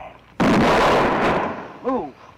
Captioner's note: gunshot